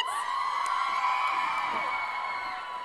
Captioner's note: crowd cheers